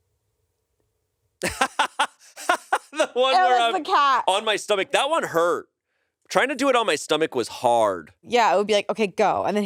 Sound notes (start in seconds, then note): 1.4 laughs